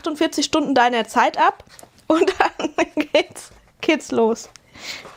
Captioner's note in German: gelächter